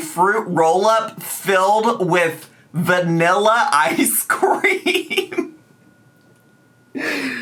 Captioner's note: laughs